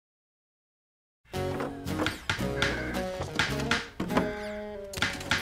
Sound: hammering

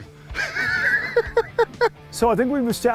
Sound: laughs

